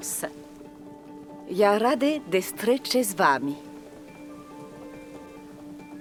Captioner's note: Catherine speaking Russian